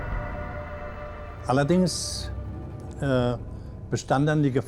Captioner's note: speaking german